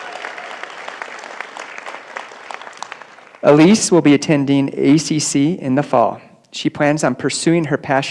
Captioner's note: applause